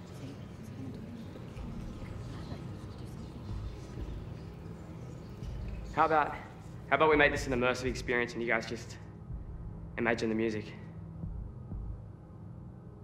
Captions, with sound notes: [woman whispering] It's not good. He's not going to win. [indistinct chatter] How about-- how about we make this an immersive experience and you guys just imagine the music?